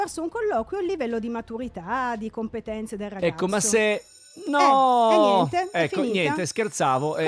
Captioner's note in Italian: suona la campanella